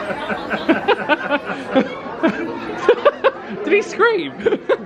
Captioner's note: laughing